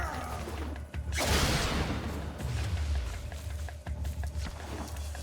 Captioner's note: concussive blast